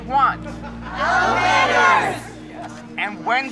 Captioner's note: multidão